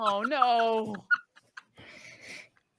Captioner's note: laughing